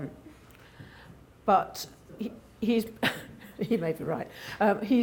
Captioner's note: laughing